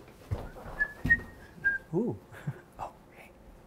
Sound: cheerful whistles

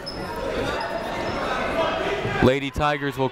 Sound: muffled voice speaking over speaker; people shouting in the crowd

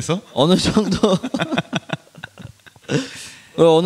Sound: laughs

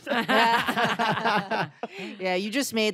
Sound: laughter

